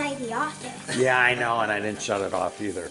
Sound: laughs

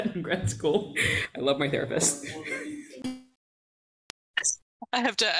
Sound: chuckles

